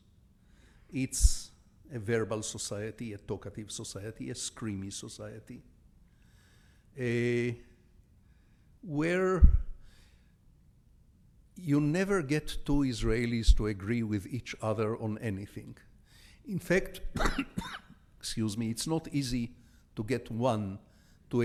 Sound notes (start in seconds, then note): 17.1 coughs